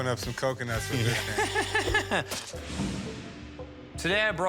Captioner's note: laughing